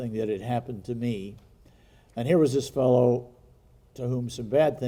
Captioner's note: none